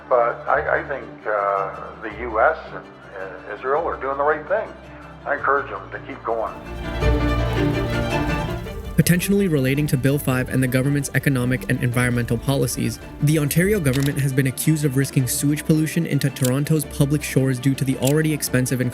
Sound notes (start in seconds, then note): 7.9 fire crackling